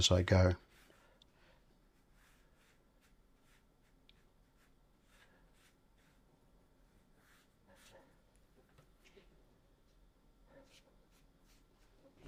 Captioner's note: silence